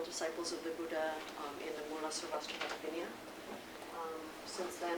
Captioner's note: non-english speech